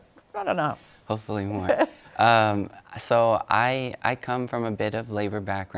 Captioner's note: laughs